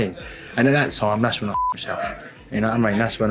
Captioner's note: beep